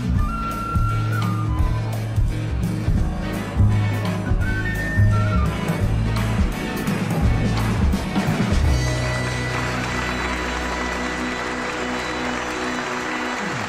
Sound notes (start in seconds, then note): 8.0 applause